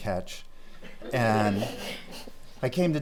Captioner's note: laughing